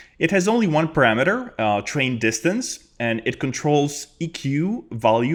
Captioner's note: none